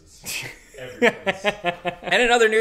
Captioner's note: laughs